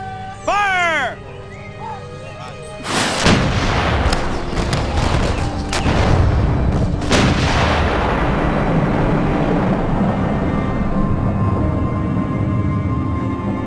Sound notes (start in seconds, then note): 2.8 cannons booming; 9.3 solemn music